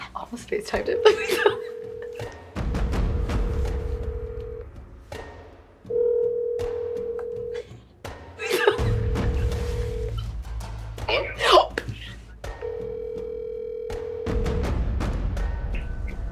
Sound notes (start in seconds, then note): 0.8 phones ringing; 12.1 gasps loudly